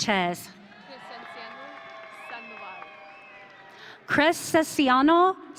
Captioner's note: audience cheering